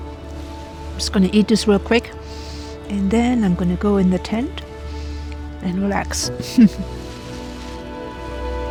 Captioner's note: laughs